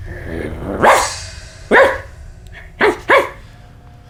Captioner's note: barking